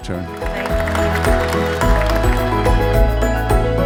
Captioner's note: audience applauding; bright music